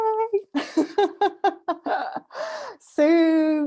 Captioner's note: laughter